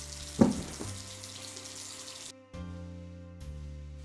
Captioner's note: thudding; gentle music